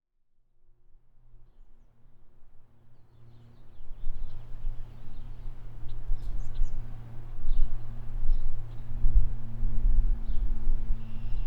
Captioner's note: nature Sounds